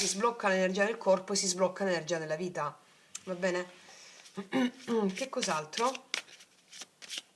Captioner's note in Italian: schiarire la voce